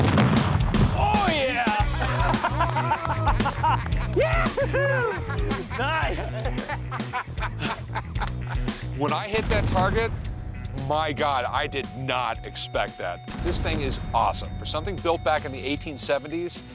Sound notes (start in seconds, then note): 1.0 laughter, cheering; 4.9 Rick laughs